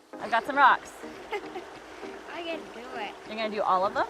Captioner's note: chuckles